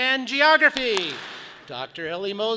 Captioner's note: audience claps